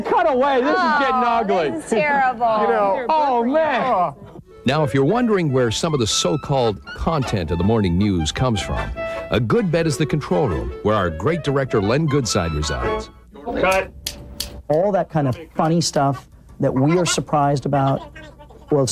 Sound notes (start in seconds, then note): 14.3 scissors snips